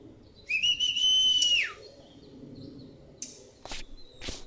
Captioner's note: whistle